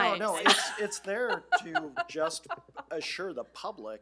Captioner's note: laughing